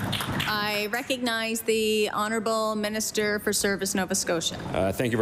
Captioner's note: applause